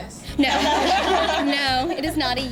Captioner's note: laughter